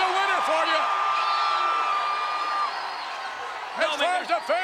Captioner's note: crowd cheering